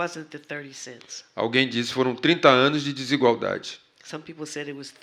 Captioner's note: speaking portuguese